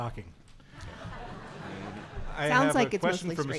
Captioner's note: audience laughing